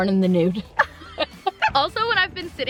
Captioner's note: laughter